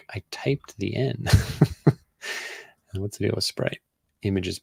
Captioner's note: laughs